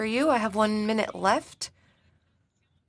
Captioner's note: speaking in French